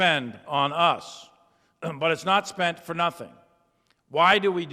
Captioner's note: clears throat